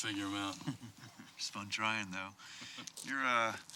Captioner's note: chuckles